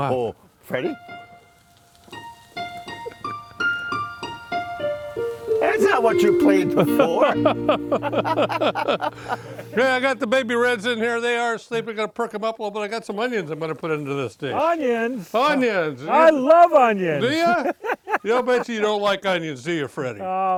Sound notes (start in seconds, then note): 1.2 whimsical piano music; 6.6 laughing collectively